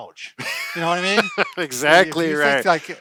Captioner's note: laughs